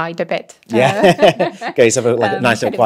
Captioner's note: both laughing